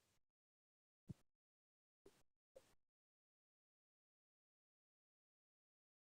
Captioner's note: silence